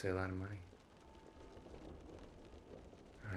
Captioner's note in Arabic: صوت المطر